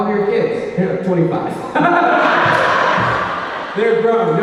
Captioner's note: laughs